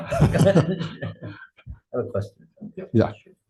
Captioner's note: laughing